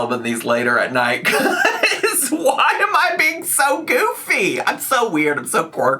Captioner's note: laughs